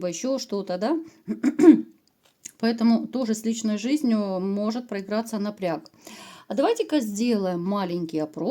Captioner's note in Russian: откашливается